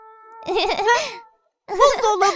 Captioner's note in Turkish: gülüyor